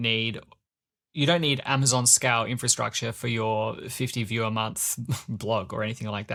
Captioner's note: laughs